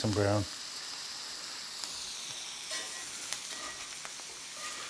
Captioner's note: fish sizzling